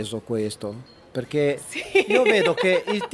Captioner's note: laugh